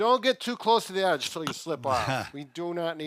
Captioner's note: laughs